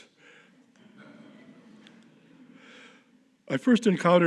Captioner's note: audience laughing